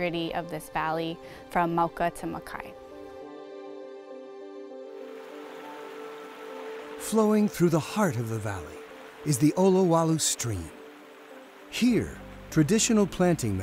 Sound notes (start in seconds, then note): 4.9 stream babbling